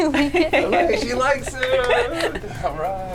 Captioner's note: clapping